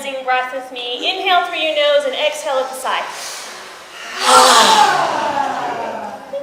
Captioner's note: speaker and audience breathe in, sigh